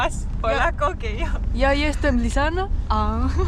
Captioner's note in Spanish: En polaco